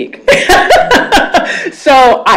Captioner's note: laughs